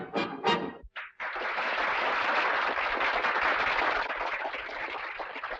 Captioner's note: audience applauding